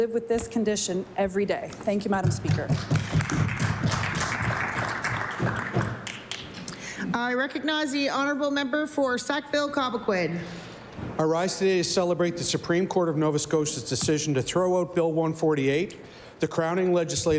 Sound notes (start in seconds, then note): 7.5 applause